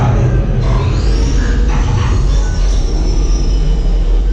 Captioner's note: mechanical humming